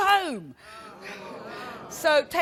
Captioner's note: audience groaning